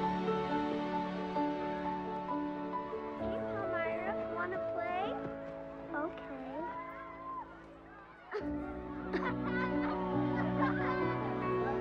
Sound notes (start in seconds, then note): 8.2 Palmyra grunting; 8.2 children laughing